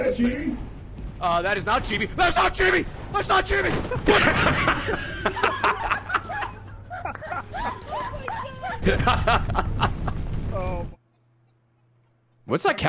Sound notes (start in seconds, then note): 7.2 laughs